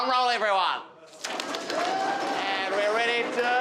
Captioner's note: crowd drum roll